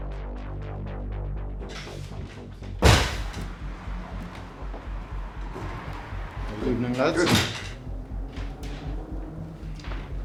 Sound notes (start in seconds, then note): 0.2 suspenseful music; 2.8 loud kick